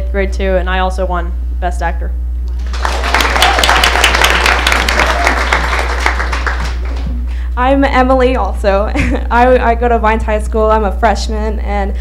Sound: applause

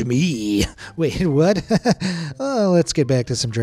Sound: nervous chuckle

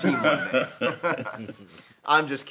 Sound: Gates and Travis laugh

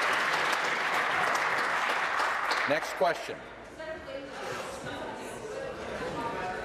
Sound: applause

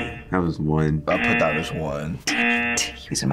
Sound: buzzer rings

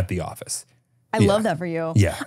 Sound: laughing

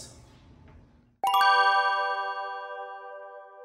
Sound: heavenly Bell Chimes

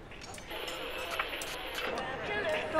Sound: static crackles

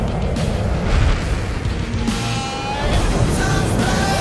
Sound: rock music; engines roaring

